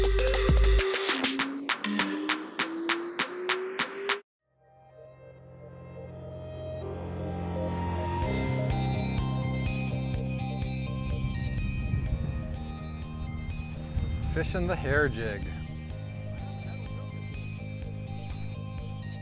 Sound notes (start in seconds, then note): 1.4 rising whistle tone; 7.3 upbeat music